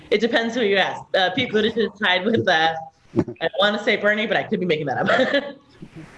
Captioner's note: laugh; laughing